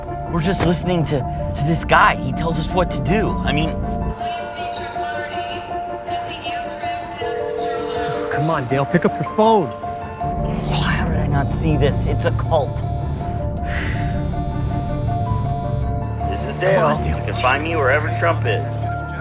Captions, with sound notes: We're just listening to this guy, he tells us what to do. (phone rings) - Come on Dale, pick up your phone. How did I not see this? It's a cult. (phone vibrating) - This is Dale, you can find me wherever Trump is.